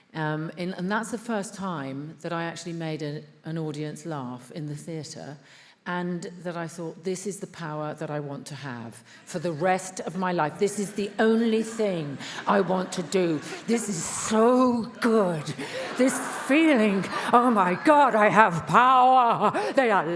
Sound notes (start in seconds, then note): 15.5 attendees laughs